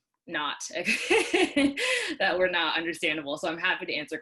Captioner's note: laughs